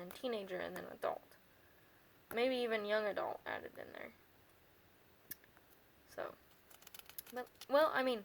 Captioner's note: lip smack